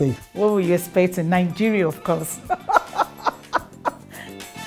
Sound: laughs

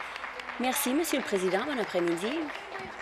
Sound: some Applause

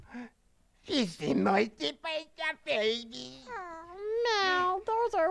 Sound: speaking gibberish

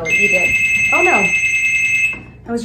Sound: phone loudly rings

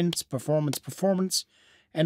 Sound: none

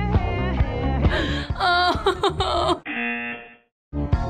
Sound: groans; buzzer

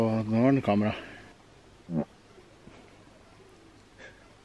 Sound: frog croak

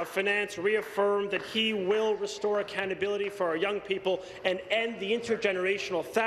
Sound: some Applause

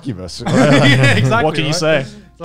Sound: laughs

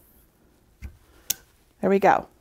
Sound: lamp clicks

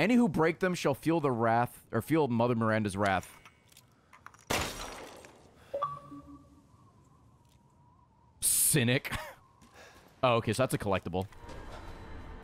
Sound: laughs

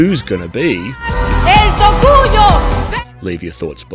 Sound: speaking in foreign language

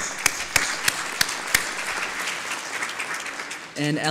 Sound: applause

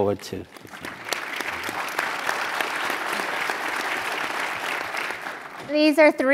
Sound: applause

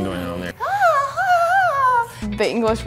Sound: exclaims in high pitched voice

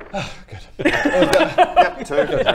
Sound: laughs

